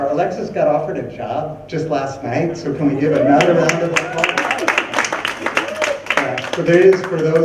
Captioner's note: clapping and cheering